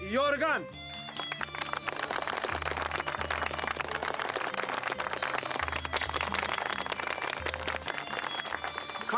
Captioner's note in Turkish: Alkışlar